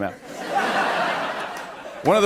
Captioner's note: laughter